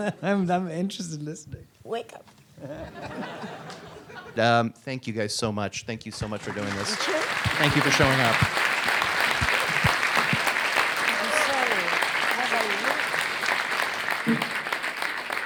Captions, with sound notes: - I'm interested in listening. - Wake up. (audience laughs) - Thank you guys so much. Thank you so much for doing this. Thank you for showing up. (audience applauds) - I'm sorry. Was I rude?